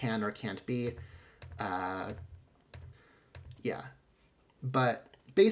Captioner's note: click, click, click